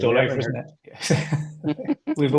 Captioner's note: several People talking